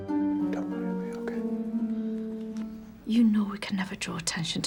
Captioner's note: whispering